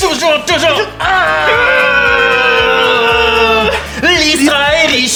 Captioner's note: Lys and Riz'shar growl again